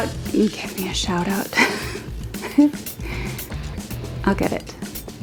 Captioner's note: laughs